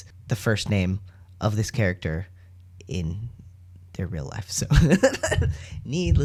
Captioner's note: laugh; sings